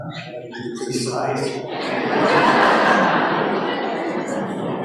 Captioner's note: laughter